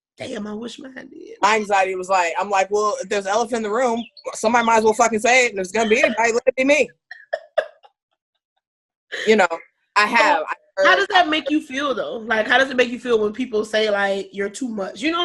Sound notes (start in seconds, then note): 7.0 laughing